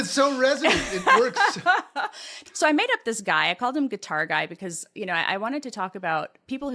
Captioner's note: laugh